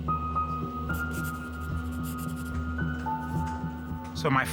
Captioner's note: pencil scratching